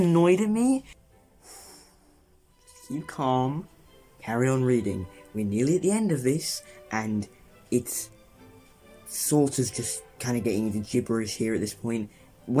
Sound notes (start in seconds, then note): 1.3 exhale